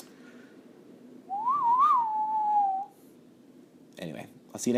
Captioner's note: whistling